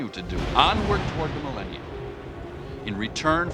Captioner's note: thunder